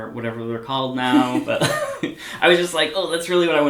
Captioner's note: both laugh